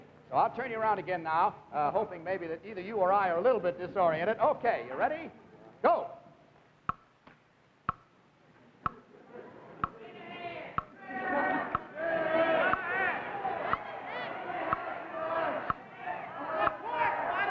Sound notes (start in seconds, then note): 7.8 clock ticking